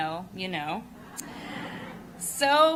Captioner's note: laughter